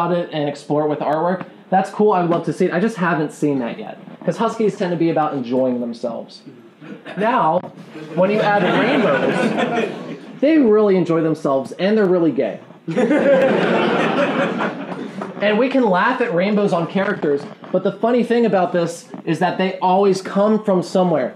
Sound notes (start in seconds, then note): 7.9 laughing; 12.8 laughing